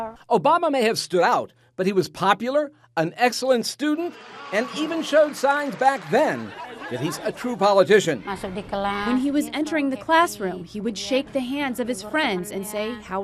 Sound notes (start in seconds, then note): 4.0 audience cheering